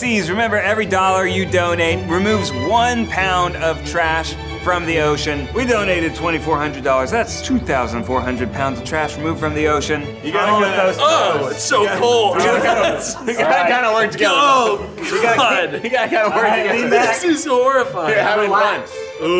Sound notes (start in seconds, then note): 12.0 laughs